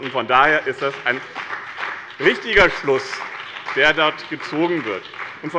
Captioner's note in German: Beifall bei dem BÜNDNIS 90/DIE GRÜNEN sowie bei Abgeordneten der CDU